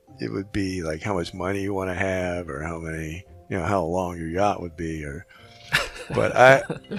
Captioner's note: laughing